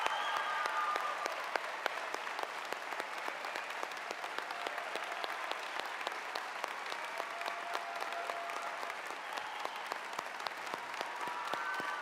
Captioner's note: cheers and applause